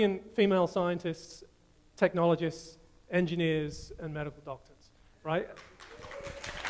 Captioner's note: audience applause